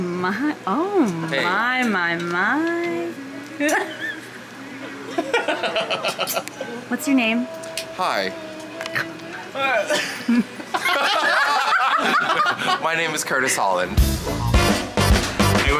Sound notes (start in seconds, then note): 9.7 everyone laughs; 14.0 exciting music